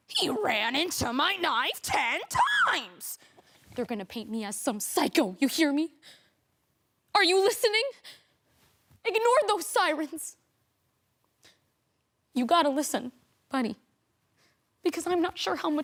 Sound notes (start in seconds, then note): 6.0 sharp breaths; 8.2 sharp breaths; 11.4 soft sharp breaths